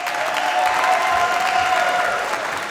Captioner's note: applause